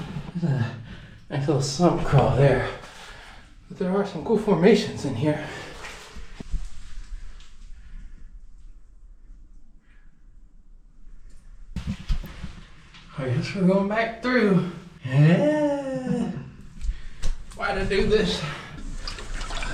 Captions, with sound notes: that's a nice little sump crawl there there are some cool formations in here I guess we're going back through aahhaaa (laughing) why'd I do this